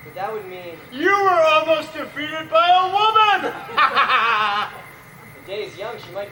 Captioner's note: laughs